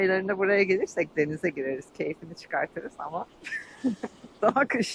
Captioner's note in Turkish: kahkaha